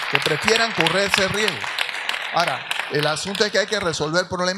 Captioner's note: audience applauds; speaks in Spanish